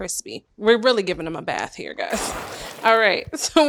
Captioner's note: splash